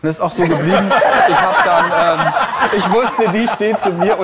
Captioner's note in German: Lachen